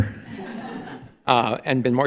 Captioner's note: audience laughing